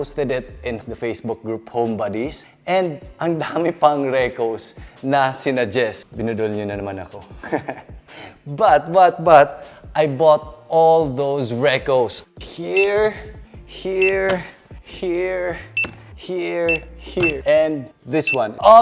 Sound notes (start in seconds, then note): 7.4 chuckles